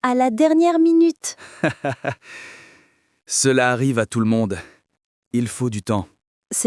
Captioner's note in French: rit doucement